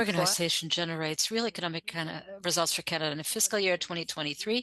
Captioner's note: speaking French